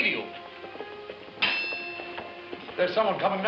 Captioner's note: horses approaching